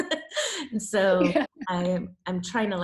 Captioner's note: laughs